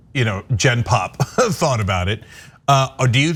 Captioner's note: laugh